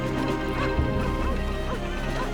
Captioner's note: a dog barks in the distance